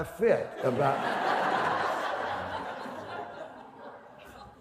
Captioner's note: laughter